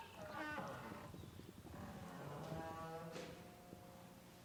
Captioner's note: door creaks